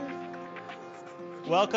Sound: audience mutters

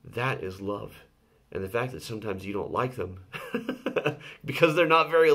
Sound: laughs

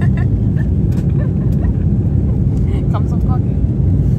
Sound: looooooooooool

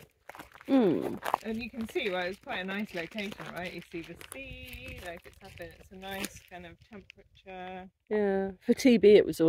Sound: hmm

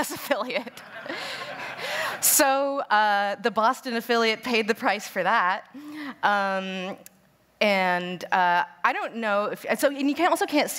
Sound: laughter

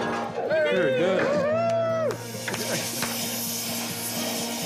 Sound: lads cheering

